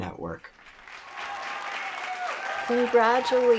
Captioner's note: applause